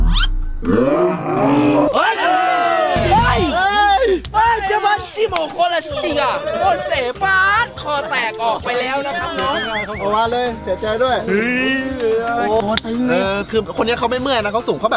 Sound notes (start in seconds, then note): 0.2 yelling; 12.1 cheering